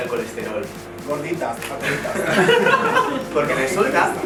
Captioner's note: they laugh